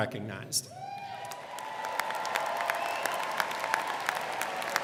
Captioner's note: crowd clapping